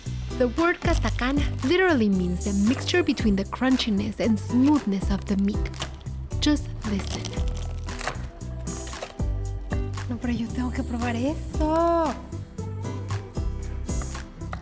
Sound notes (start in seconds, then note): 7.8 crunching